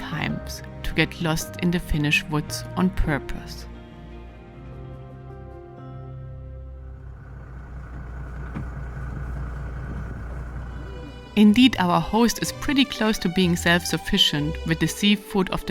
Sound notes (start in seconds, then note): 6.1 gentle music; 10.3 vehicle engine whirring